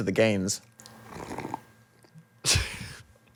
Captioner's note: slurps; laughs